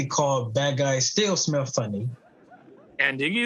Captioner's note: audience laughing